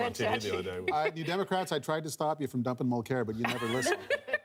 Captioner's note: laughter